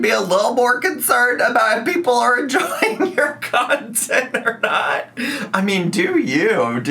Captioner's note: laughs